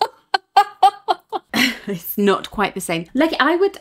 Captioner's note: laughing